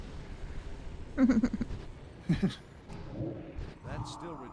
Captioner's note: laughs